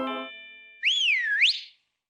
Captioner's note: whistles